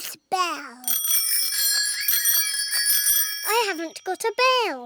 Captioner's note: bicycle bells ringing